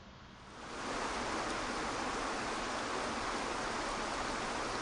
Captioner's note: waterfall crashing